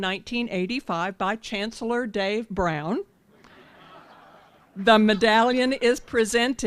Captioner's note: laughter